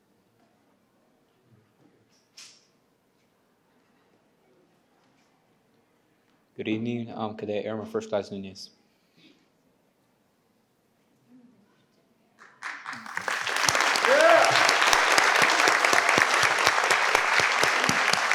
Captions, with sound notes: - Good evening, I'm Cadet Airman First De Nunez. (participants applaud)